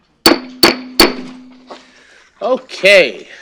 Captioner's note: pounding